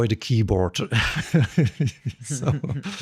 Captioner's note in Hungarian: nevetés